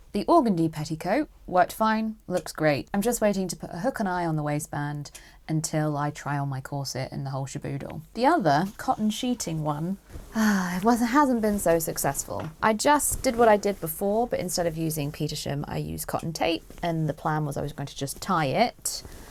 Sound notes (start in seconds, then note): 10.3 sighs